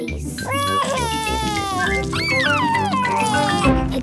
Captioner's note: crying